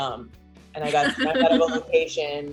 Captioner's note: laughing